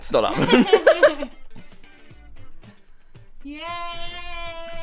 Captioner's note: laugh